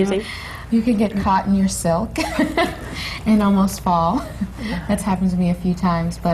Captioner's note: laughs